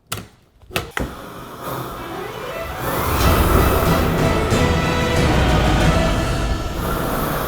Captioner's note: flame thrower roaring; dramatic music